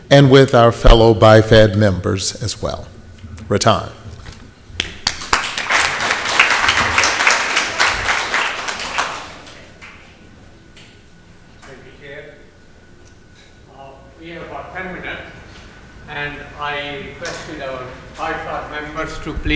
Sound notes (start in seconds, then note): 4.8 audience applauds